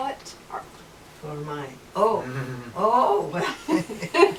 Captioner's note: laughter